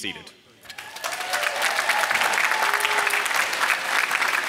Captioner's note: applause